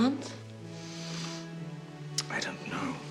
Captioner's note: inhales